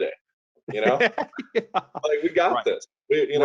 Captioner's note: laughing